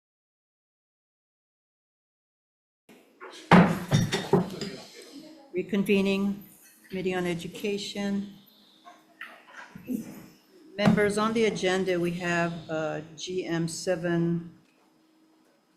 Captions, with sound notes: (gavel bangs) Reconvening, Committee on Education. Members, on the agenda we have GM719.